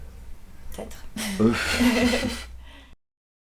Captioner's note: laughs